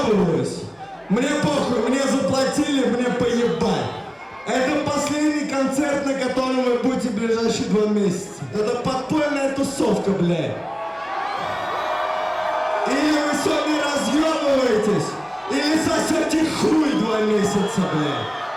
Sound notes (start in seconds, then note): 11.3 crowd cheers